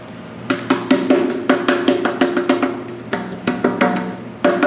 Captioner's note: metal thumping